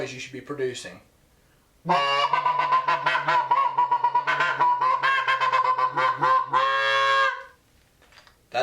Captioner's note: goose call